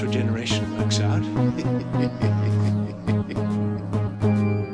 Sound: The Master's evil and campy laugh

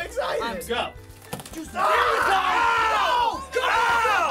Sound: loud yelling

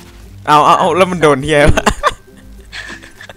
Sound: laughing

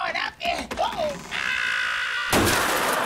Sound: screaming; smashing

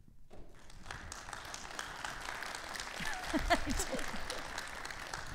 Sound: audience claps

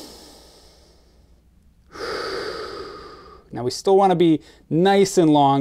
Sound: exhales; inhales

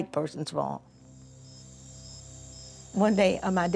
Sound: insects chirping

